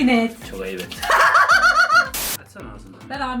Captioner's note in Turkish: Gülüyor